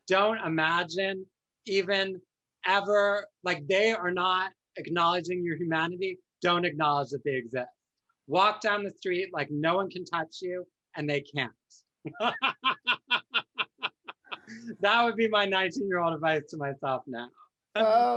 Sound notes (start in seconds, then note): 12.0 laughs